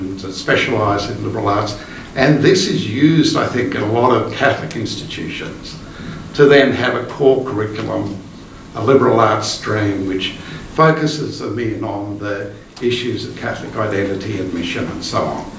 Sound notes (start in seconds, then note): none